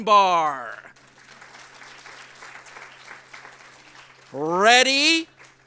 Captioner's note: audience applauds